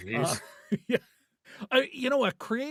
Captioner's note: laughing